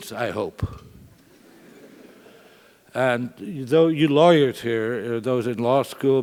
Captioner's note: laugh